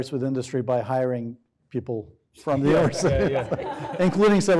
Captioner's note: laughs